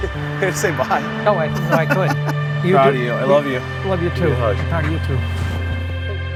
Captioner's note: laughter